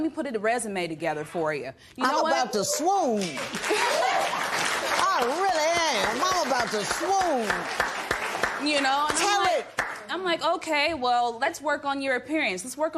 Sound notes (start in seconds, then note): 3.2 laughter and applause